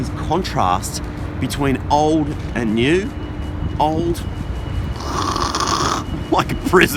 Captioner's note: laughs